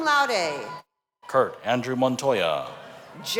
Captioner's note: cheers and applause